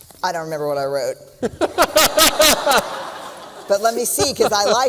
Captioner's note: laughter